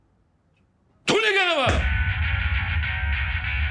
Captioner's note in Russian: кричит